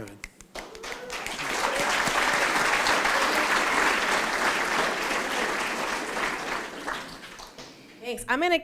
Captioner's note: applause